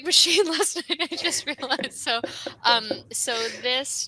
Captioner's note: laughs